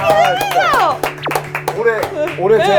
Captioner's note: bonk